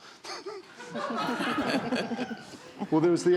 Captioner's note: all laughing